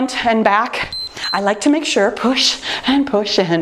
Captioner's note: timer beeps